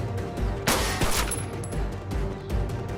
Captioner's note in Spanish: Disparos